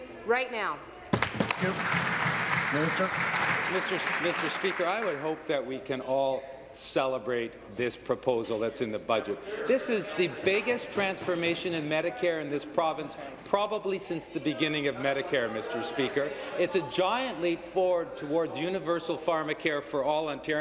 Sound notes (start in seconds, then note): 5.0 applause